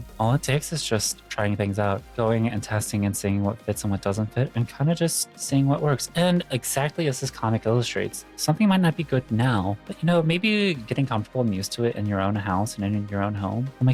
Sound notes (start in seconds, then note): none